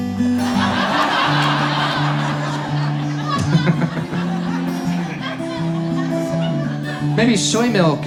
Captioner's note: audience laughs